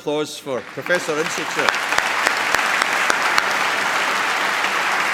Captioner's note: applause